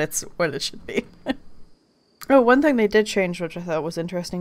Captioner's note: laughing